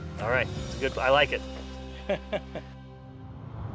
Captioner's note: laugh